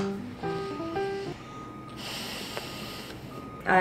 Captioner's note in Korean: 깊은 한숨